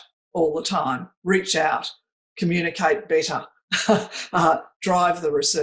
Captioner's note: chuckles